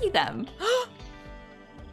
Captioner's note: gasp